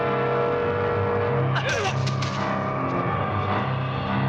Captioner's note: grunting